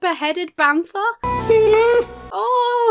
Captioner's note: Lumpy wails